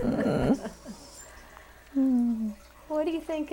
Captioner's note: laughter